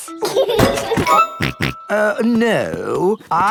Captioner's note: laughs and snorts